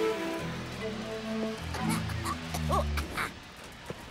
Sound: music and ride grind to a halt; grumpy bear coughs

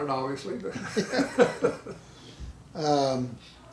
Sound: laughing

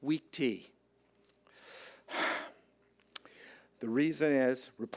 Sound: sighs

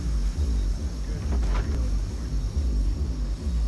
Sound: banging continues

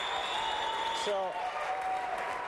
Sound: applause

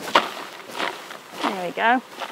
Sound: bees clatter

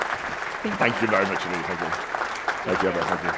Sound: applause

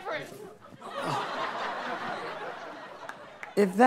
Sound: audience laughing

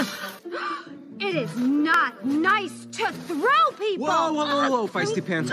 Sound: gasp

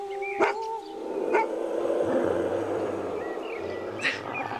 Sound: dog barking

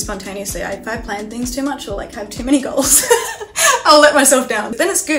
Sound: laughs

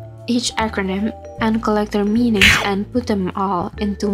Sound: snakey chomp nom noise

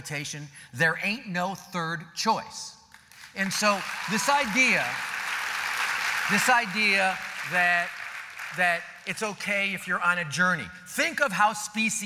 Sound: applause

